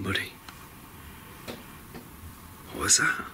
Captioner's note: gentle tapping